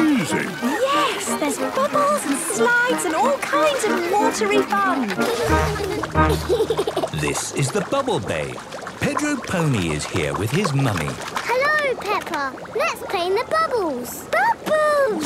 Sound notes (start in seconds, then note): 5.1 giggles